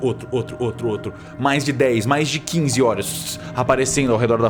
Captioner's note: fssh